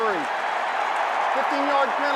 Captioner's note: cheering